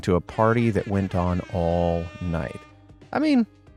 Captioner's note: horns beeping